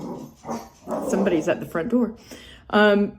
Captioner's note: dog barks